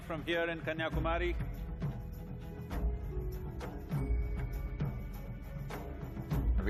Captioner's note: speaks in Hindi - not transcribed; speaks in Hindi - not transcribed